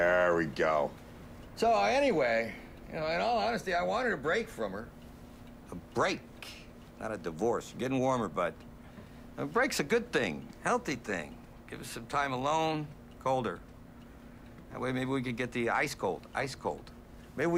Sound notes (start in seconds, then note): none